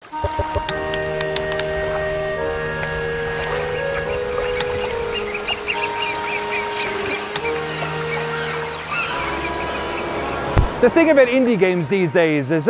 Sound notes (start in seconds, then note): 0.2 keyboard clacking; 0.2 melancholy music; 4.5 seabirds calling